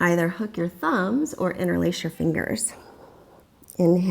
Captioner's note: deep breathing sounds